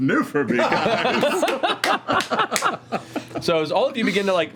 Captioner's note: laughter